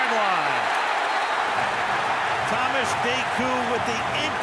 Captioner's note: cheering